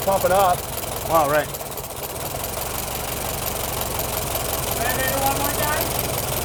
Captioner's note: engine idles